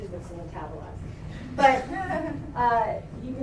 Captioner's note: laughter